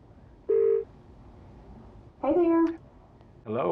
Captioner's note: phone ringing